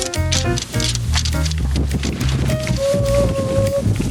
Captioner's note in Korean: 갑자기 불어오는 바람